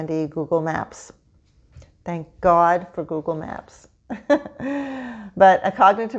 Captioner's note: laughs